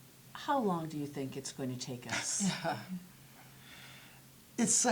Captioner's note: laughter